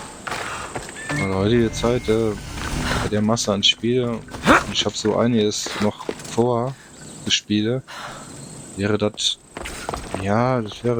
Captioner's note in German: schnauben